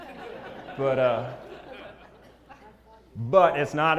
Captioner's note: laugh